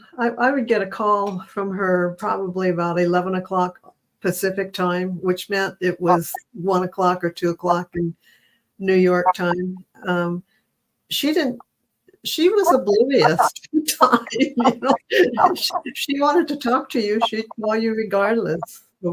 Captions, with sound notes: I would get a call from her probably about eleven o'clock Pacific time, which meant it was one o'clock or two o'clock New York time. She was oblivious, talking, you know [laughs]. She wanted to talk to you, she'd call you regardless